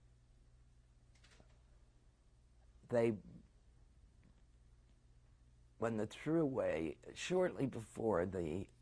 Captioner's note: pauses for 3 seconds